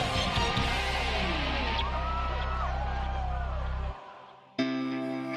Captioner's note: cheering